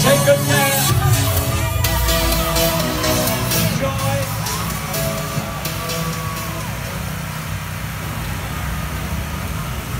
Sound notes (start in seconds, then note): 6.8 rain falling